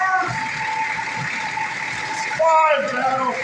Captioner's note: engine idling